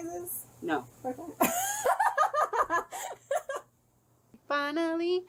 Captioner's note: laughs